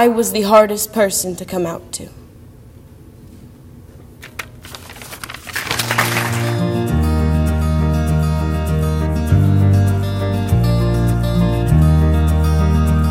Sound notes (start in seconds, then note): 5.6 audience applause